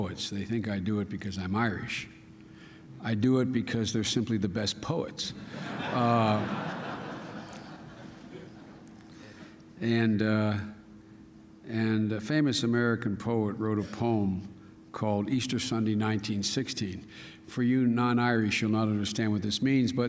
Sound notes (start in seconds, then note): 5.4 laughter